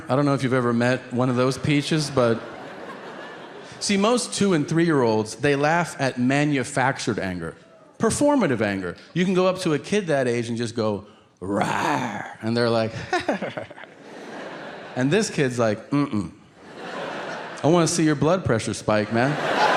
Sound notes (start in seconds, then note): 12.9 Tom chuckling; 16.6 audience laughing